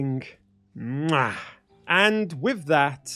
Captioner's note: mwah!